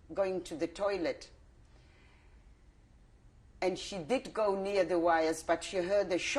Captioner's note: pauses for 3 seconds